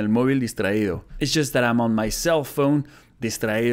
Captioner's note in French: lit la traduction en anglais